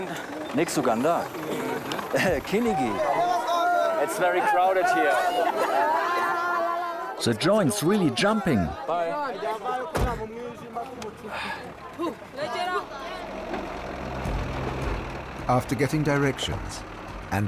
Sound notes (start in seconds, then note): 7.3 in German; 9.1 in English; 9.9 car door closes